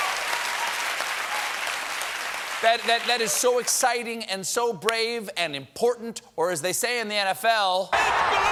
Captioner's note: applause